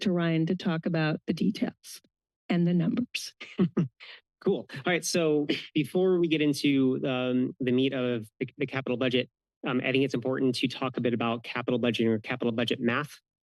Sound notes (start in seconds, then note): 4.4 chuckles